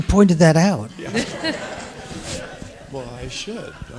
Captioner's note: people laughing